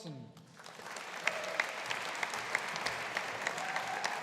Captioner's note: audience applauding